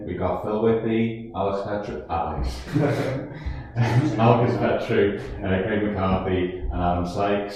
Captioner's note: laugh